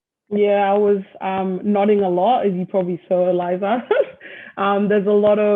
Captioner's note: laughs